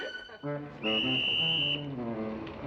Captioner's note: whistle blowing